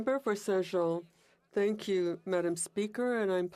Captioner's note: speaking French